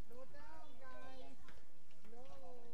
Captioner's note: children chattering